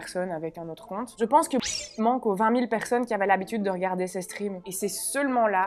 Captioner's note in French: bip